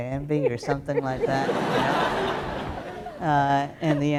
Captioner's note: laughter